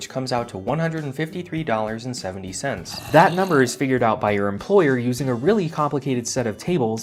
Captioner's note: zombie growl